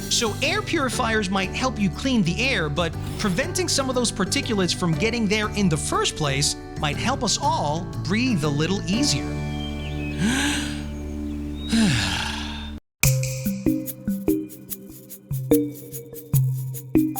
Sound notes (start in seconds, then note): 10.1 inhales, exhales